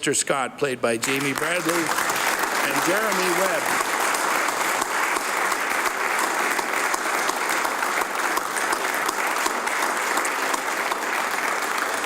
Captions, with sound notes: Mr. MERRICK AND Mr. SCOTT, PLAYED BY JAMIE PRACTICEDLY AND JEREMY WEBB. -- JAMIE BRADLEY AND JEREMY WEBB. [ Applause ]